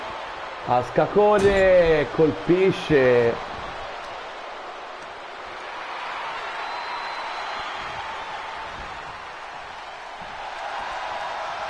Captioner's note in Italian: Applauso